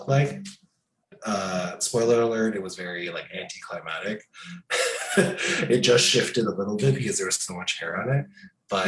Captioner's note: laughs